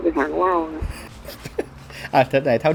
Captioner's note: laughing